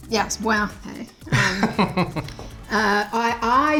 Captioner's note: laughs